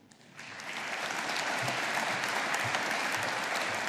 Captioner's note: audience applauding